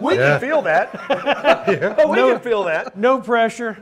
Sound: panelists laughing

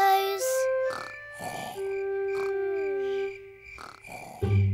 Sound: george snoring

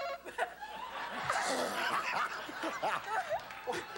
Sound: laughter

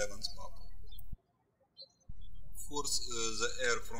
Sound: birds chirping

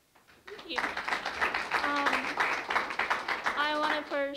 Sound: applause

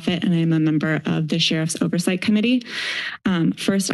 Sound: inhales

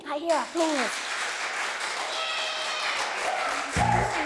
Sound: applause and Cheering

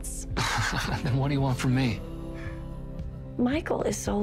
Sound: laughs

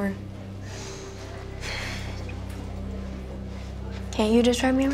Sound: sighs

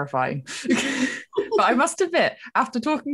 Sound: laughing

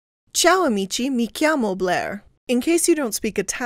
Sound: speaking in Italian

